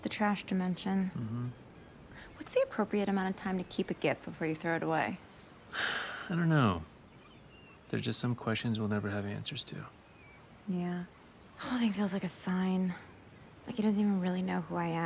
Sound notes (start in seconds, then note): 5.7 sighs